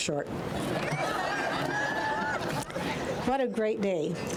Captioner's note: crowd laughing